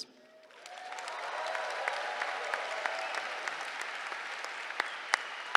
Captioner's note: applause